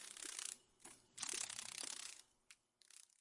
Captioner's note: sounds of a dragon fly